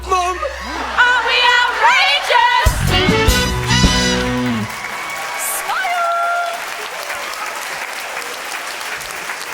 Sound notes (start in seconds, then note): 5.7 audience applause